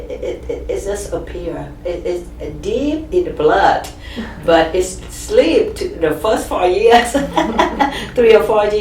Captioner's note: laughs